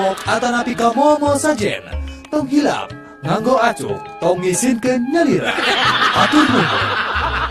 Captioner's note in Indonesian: tertawa; tertawa